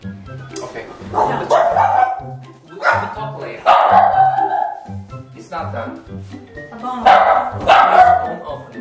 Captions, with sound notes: Okay (door bell is riging and Puding is barking) We will talk later (Puding is barking) It's not done Ok, Lovii Please, don't open, okay??